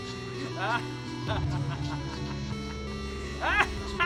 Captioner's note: maniacal laughter